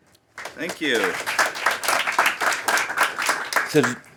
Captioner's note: applause